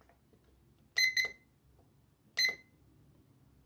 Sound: timer beepS

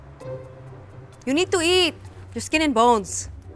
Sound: with Filipino accent

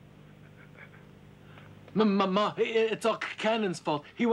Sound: stuttering

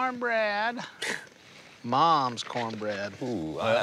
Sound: scoffs

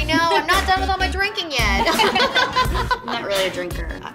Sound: laughter

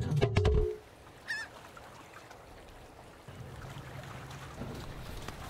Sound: seagull squawking

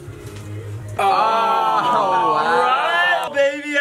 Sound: cheering in surprise

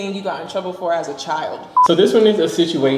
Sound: beep

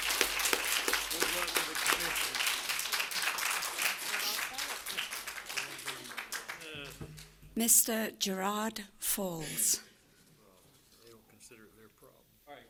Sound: applause

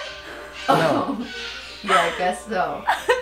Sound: laughs

